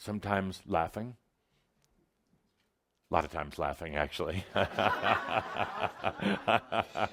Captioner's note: laughter from audience and Adamus